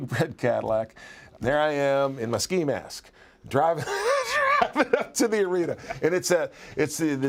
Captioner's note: laugh